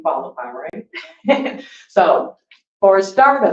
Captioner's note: laughs